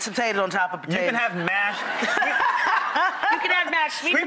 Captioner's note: Jackée laughs